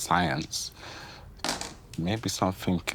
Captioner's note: dice clattering